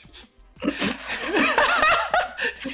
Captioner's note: laughs